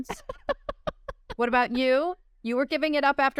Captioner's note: laughter